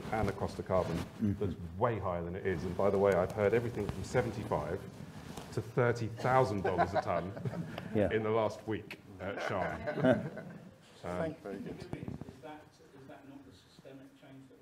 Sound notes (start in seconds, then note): 6.6 laughing